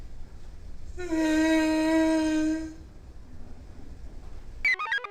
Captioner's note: Patient #6 groans; computer chirps